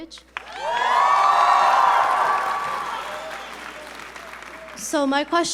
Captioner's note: audience members cheering